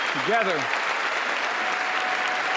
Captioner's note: applause